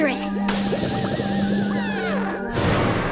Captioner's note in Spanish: ruido de efervescencia